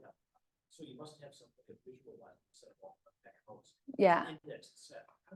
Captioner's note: speaks faintly